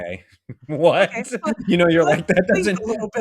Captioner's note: laughter